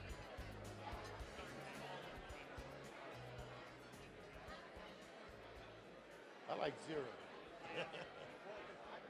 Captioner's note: hubbub